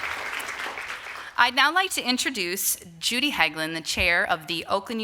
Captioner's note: applause